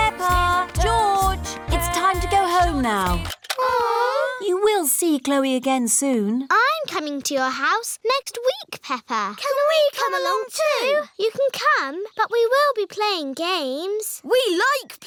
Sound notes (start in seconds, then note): 3.6 all groan; 3.9 music stops